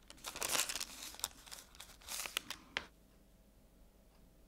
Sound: rustling

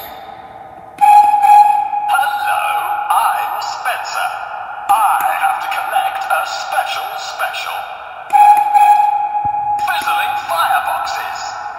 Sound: whistle blows

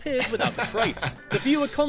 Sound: chuckles

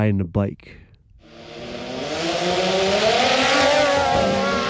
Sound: drone buzzing

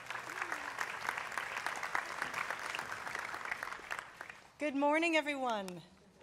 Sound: applause

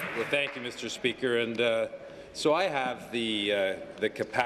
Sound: applause

